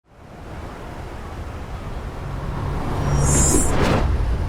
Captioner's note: street sounds